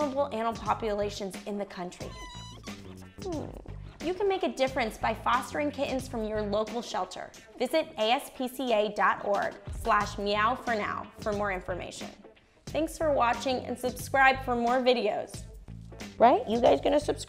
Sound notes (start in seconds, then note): 2.1 cats crying; 3.2 woman whimpering